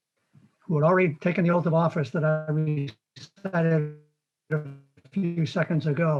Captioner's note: warbled audio